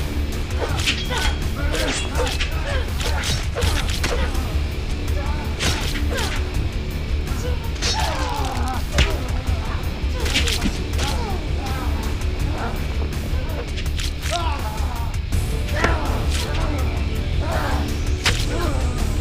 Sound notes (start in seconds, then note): 3.8 both grunting; 7.9 guts squishing